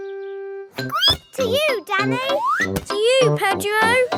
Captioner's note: squeaks